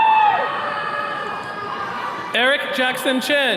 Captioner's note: attendees cheering